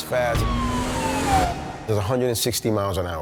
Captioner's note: siren wailing